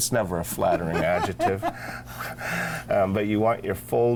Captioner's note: laughs